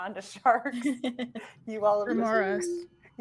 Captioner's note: laughing